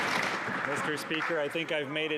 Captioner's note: some Applause